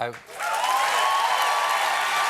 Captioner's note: cheers and applause